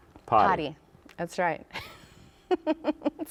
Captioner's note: laughs